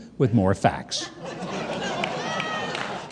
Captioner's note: audience laughs